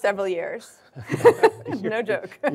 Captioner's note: laughing